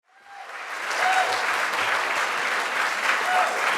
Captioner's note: audience cheering